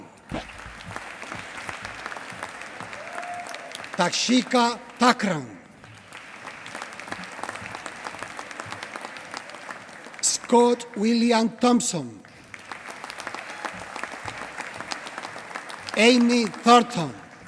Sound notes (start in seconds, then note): 0.2 applause; 5.8 applause; 12.3 applause